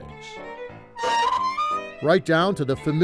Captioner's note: seat creaks